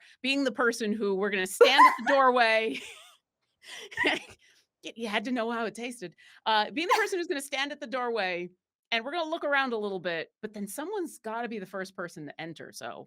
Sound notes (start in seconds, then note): 3.8 both laughing